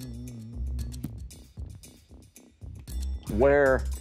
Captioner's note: muffled humming